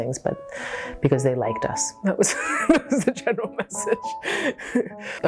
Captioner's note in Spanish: risas